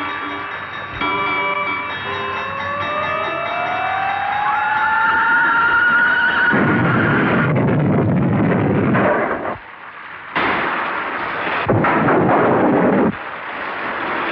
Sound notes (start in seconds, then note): 6.5 car Crash Sound